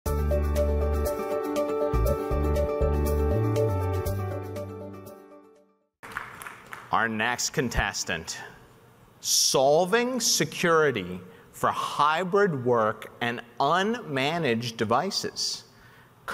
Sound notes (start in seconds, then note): 0.0 upbeat music; 6.0 audience applauding